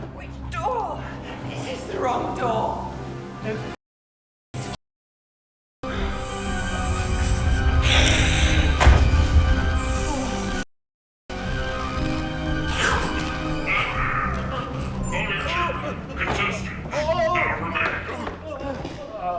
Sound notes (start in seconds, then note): 5.8 dramatic music; 6.3 snake hissing; 8.6 dramatic music; 9.6 snake hissing; 11.3 dramatic music